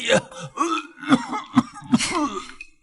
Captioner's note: cough cough